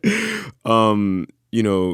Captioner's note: laughter